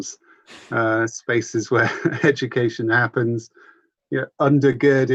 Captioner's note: laughs